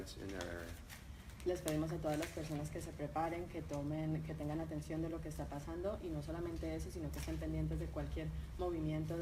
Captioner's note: speaking in Spanish